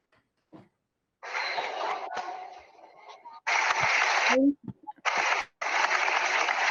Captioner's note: applause